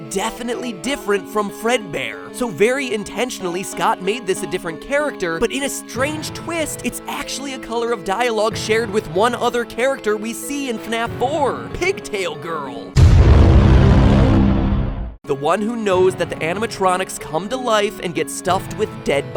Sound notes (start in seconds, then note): 12.9 ominous "Inception" sound effect. CONSPIRACY CONFIRMED